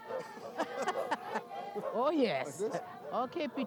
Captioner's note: laughing